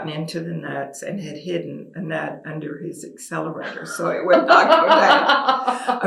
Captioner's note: laughter